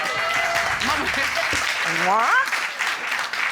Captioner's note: audience cheers